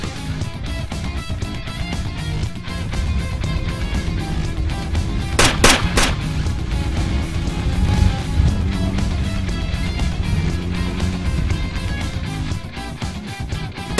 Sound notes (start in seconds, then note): 5.3 guns firing